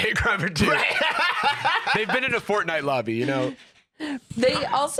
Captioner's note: laughs